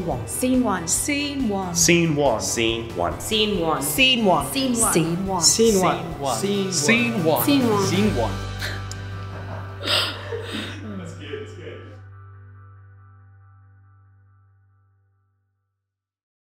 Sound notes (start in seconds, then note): 9.2 laughs